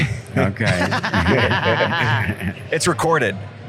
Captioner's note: laughs